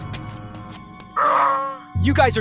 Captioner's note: onion ring growl